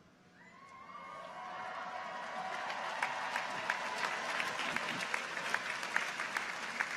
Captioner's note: people cheer; audience applauds